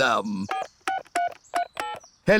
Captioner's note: dialing phone